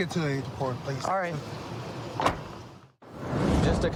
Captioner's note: car door closes